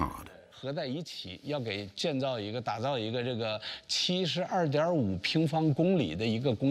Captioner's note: speaking foreign language